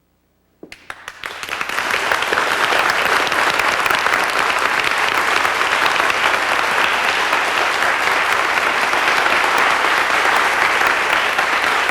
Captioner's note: applause